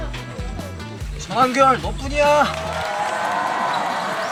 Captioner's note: cheering too